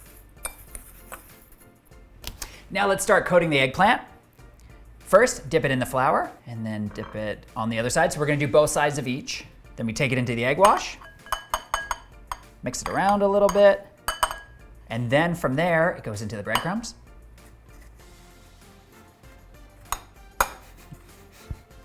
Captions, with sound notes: (gentle music) Now let's start coating the egg eggplant. First, dip it in the flour and then dip it on the other side. So we're going to do both sides of each. Then we take it into the egg wash. (gentle music) (tongs clanking) Mix it around a little bit. And then from there it goes into the breadcrumbs. (gentle music)